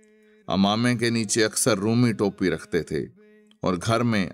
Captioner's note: Turkish